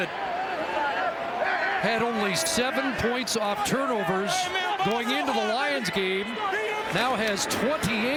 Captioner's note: crowd noise